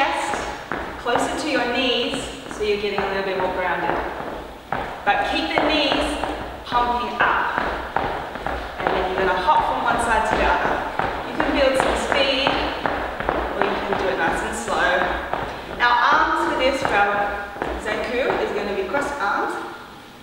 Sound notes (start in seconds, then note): 4.3 feet tapping